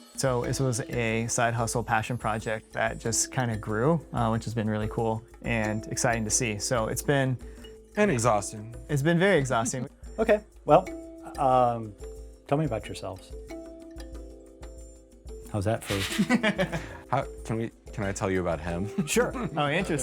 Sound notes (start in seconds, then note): 13.5 soft music; 15.8 laughs